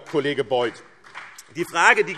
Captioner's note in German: Vereinzelter Beifall BÜNDNIS 90/DIE GRÜNEN